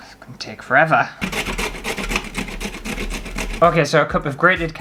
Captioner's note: grating